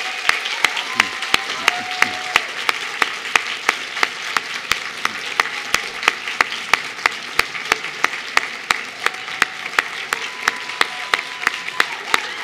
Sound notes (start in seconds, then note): 0.0 cheers and applause